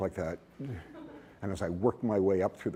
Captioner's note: laughter